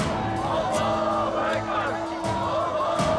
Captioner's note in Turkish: Hep bir ağızdan